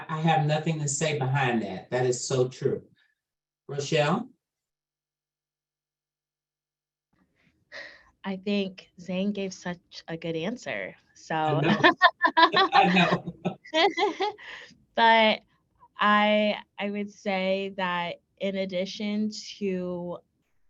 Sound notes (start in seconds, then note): 11.5 chuckles